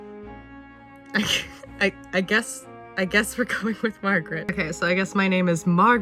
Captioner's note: laughs